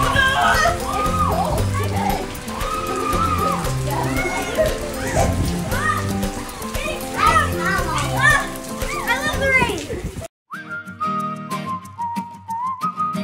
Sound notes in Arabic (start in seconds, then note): 2.7 تضحك; 2.7 صراخ الأطفال; 10.6 موسيقى ساطعة